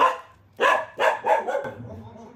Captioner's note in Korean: 순이의 우렁찬 목소리